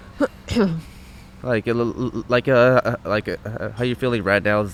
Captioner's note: stuttering